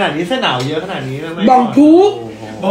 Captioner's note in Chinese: 泰語口音